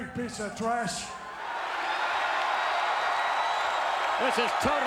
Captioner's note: crowd cheering